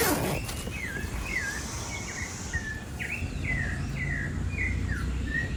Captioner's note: birds chirping